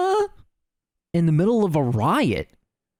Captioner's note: Normal Sandman voice